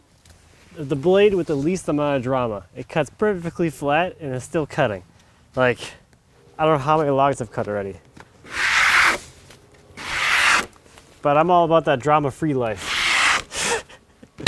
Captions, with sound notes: the blade with the least amount of drama. It cuts perfectly flat, and it's still cutting. Like, I don't know how many logs I've cut already. (tool scrapes) But I'm all about that drama-free life (laughs).